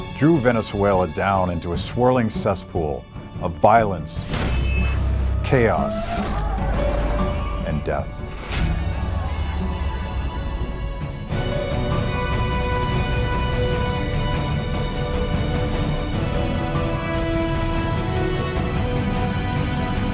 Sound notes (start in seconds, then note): 4.3 shooting; 6.7 explosions and yelling; 8.9 dramatic music